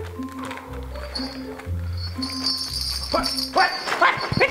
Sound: jingling; exclaiming

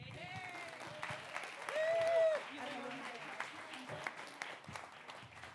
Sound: audience cheering and applauding

